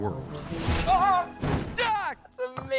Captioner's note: Pogue shouts